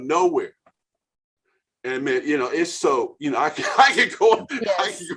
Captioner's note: laughing